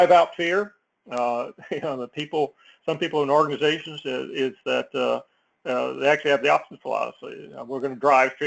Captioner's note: laugh